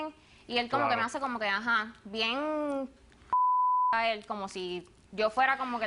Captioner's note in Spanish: Bip